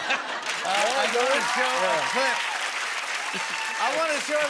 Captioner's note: cheers and applause